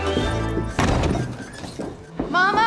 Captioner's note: door slams